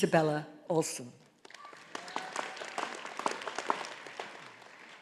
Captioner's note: audience applauding